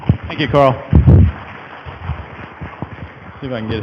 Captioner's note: audience applause